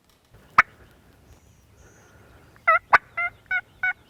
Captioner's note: turkey calls